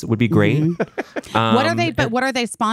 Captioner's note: laughing